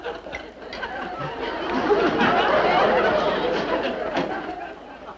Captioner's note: audience laughter